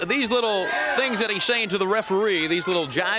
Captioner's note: crowd chatter